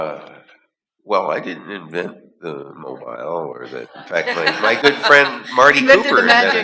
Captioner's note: laughter